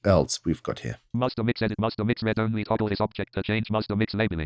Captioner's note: automated voice